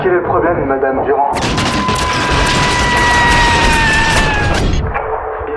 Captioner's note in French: Bruit de balles qui ricochent contre l'acier; Cri aigu